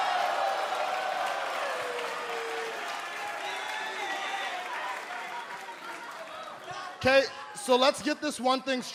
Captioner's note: crowd cheering